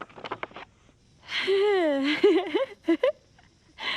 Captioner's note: chuckles